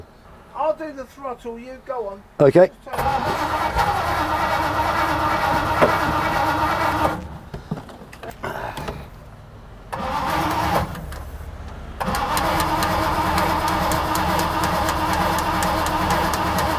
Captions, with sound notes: - I'll do the throttle, you go on. - Okay. (car starting) (tapping)